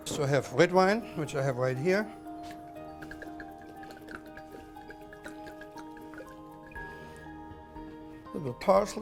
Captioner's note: gurgling